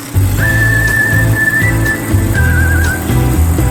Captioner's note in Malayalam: ചൂളം വിളിക്കുന്നു